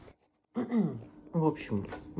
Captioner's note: khem